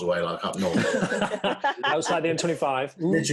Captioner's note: laughing